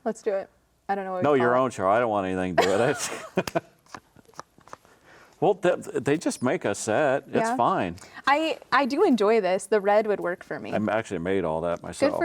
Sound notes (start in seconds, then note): 2.6 both laughing